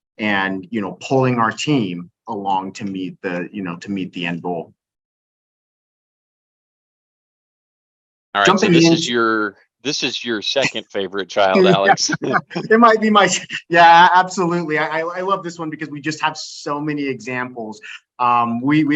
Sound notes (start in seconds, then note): 11.6 both laughing